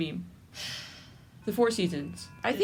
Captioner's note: sigh